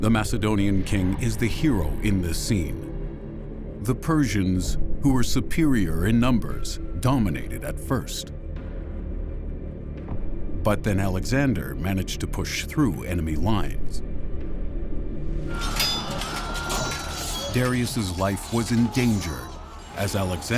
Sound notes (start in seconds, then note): 15.8 commotion